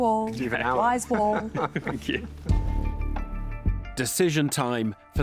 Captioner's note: laughs